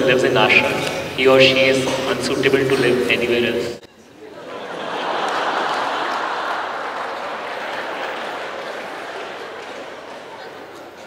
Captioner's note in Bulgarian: смях